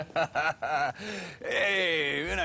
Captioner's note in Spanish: Risas